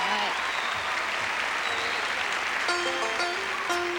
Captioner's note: applause